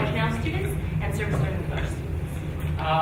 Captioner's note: speaking faintly